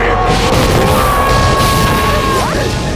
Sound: screaming

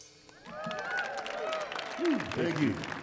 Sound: audience applauding

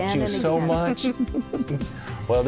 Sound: laughter

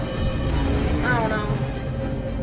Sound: Muto roars

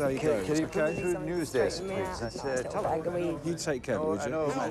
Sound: editors chattering

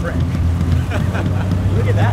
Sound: man laughing

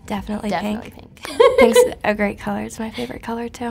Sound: giggling

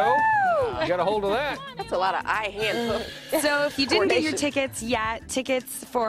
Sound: laughter

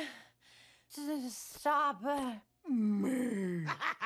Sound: voice breaking; Joker laughs

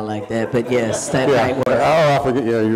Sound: audience laughing

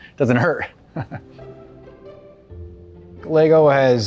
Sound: chuckles

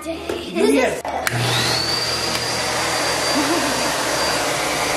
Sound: air blowing

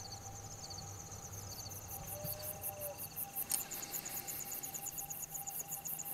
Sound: insects chirping

